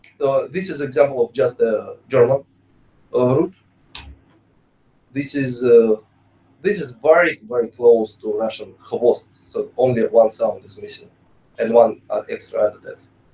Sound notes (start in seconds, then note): 8.5 russian